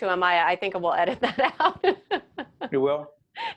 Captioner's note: laughing